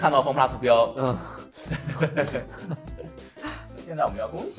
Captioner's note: laugh